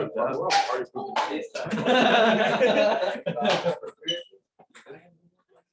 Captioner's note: laughter